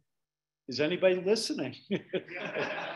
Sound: laughing; audience laughing

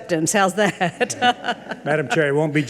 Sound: laughs

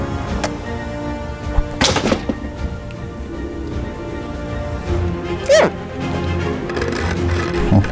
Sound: grabber clatters; bin hand hums thoughtfully

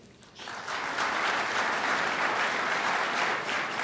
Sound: crowd applauds

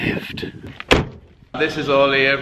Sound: door slams

